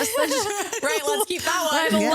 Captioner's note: laughing